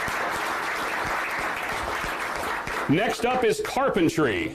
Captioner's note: applause